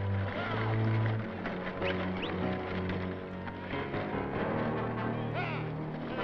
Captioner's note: cowboys shouting; cowboys whistling